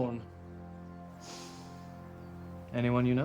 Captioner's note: sniffing